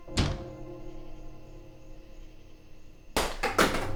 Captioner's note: wall thumping; truncheon clatters